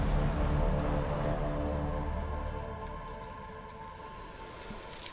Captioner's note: dramatic tense music; flames crackling